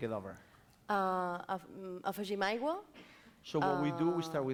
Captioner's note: non-english speech